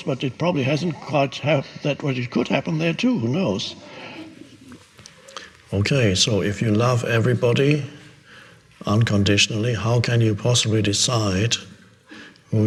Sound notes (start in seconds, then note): 3.5 audience sniggers